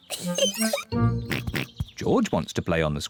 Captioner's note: oinks